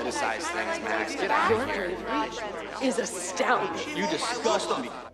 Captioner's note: users clamor